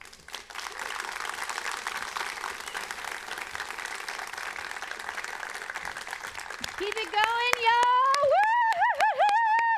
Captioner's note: applause